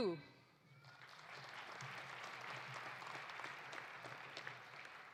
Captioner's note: audience applauding